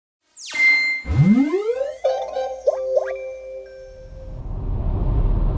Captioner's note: logo sting with sound effects